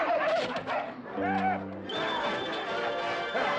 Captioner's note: screaming